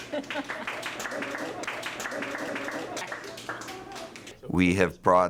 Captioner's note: applause